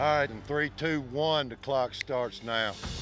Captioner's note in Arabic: ينقر بإصبعه